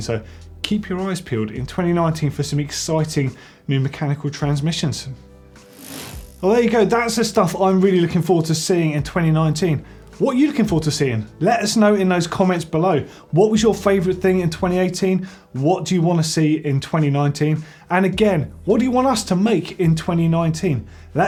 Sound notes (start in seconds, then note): 5.8 bike chain whirring